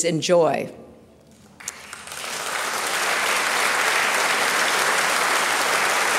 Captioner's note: applause